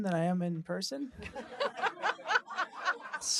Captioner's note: laughter